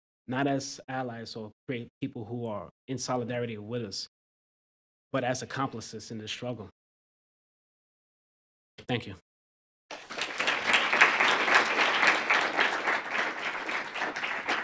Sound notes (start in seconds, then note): 9.9 applause